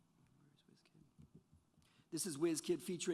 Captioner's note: whispering